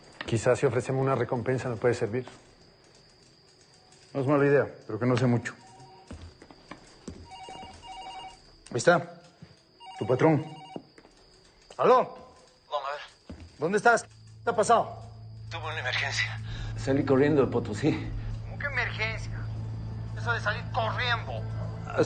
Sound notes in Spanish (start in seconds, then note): 7.3 Timbra el teléfono